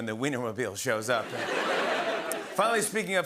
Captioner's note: laughter